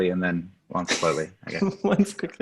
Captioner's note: laughter